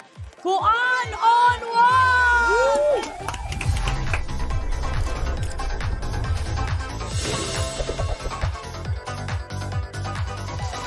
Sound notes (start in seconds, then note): 2.4 theme music playing; 2.6 clapping